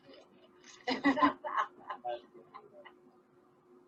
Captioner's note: laughing